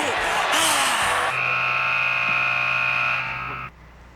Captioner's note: buzzer